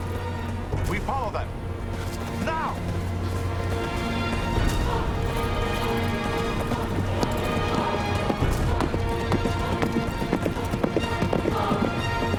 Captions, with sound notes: We follow them! Now! (horses galloping)